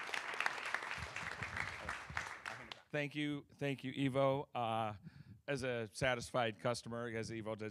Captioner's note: applause